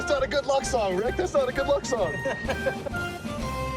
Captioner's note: laughs